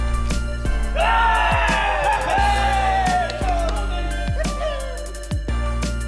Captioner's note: cheering